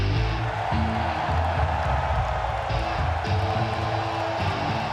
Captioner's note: people cheering